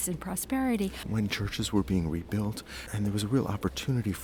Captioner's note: voiceover